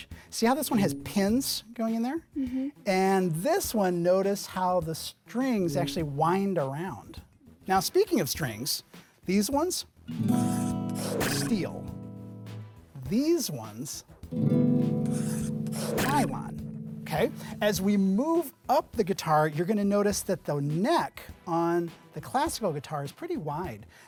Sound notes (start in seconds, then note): 10.1 guitar playing; 10.3 pencil scratching; 10.9 arrow twanging; 14.3 guitar playing; 15.0 pencil scratching; 15.6 arrow twanging